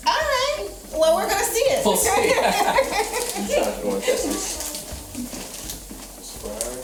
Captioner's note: laughs